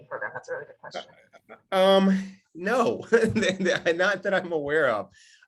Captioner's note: laughs